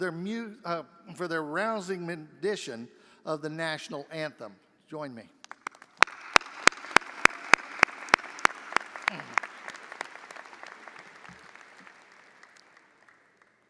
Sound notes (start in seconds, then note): 5.4 audience applauding